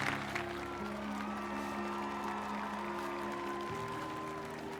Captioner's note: cheering